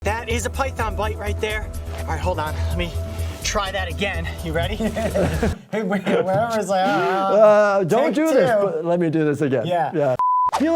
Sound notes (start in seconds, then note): 4.7 both laughing